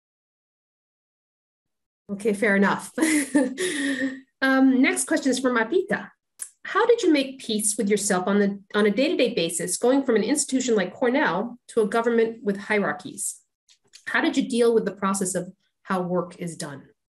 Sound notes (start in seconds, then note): 3.0 laughs